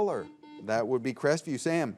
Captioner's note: buzzer beeps